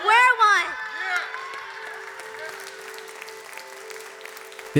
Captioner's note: audience cheering and applauding